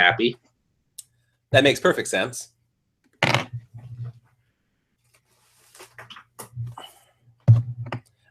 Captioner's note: noise of headphones hitting desk